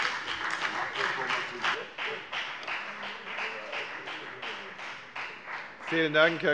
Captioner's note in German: Beifall bei der FDP